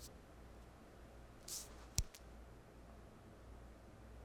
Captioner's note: loud hand slap on marble